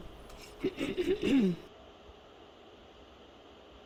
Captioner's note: clears throat